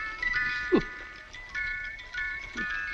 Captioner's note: chuckles